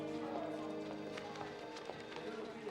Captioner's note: phone ringing